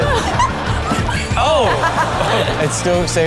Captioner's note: everyone laughs; laughing